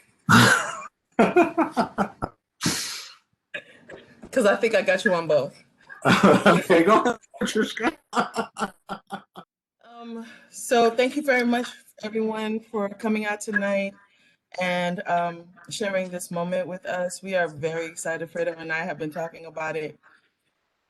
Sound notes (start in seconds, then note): 1.1 laugter; 6.0 laughter